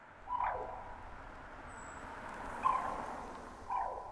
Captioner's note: bird cawing